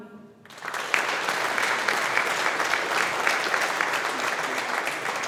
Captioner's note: audience applauding